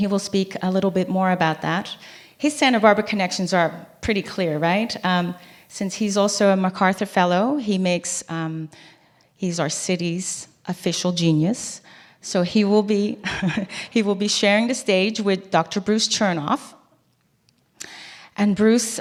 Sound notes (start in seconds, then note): 13.6 laugh